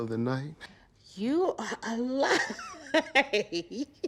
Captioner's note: laughs